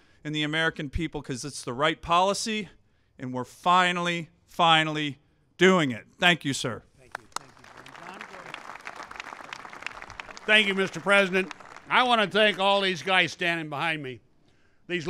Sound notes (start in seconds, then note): 7.0 applause